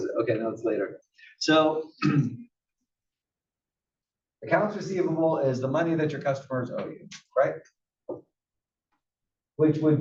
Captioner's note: cough